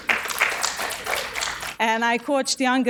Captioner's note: audience applauding